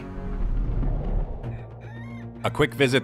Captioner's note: rooster crows